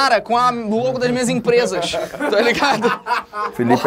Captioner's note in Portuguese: risadas